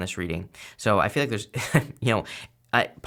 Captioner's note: chuckles